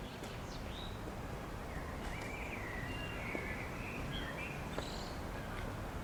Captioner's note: birds Singing